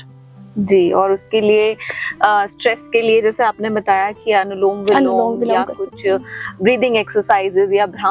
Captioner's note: alternate nasal breathing